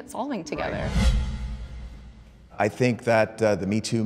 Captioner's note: wind swooshing